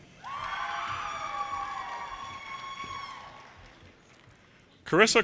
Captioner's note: audience cheers and applause